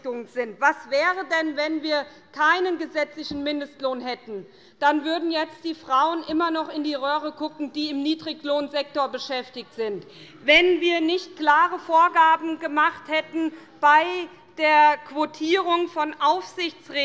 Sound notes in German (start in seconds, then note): none